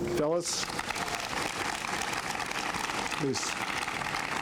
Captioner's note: applause